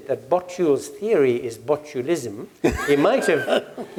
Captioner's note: laugh